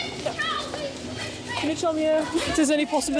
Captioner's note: woman shouts indistinctly